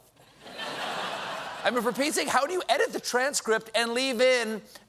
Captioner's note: laughter